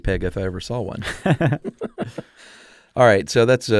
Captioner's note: both laugh